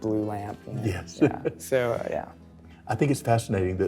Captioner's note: laughs